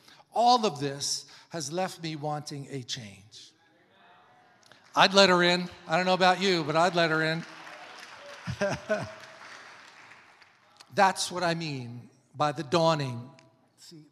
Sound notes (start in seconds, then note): 7.6 congregation applauding; 8.3 laughs